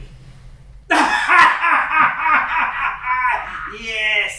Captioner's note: laughing